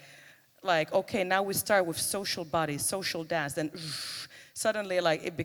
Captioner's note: makes noise with mouth